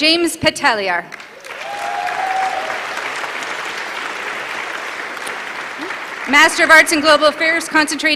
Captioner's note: applause